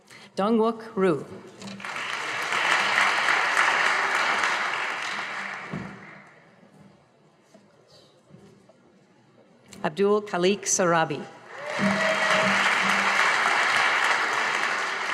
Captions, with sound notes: Dun Wic Ru (audience applauding) Abdul Kaleek Surabi. (audience applauding)